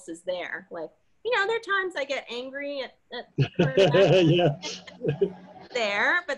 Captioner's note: laughing